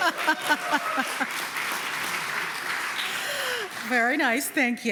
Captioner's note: laughter; applause